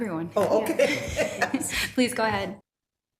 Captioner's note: laughs